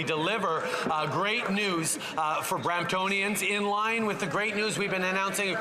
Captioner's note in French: voix de l'interprète